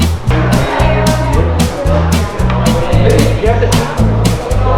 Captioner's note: paced instrumental music; people talking ambience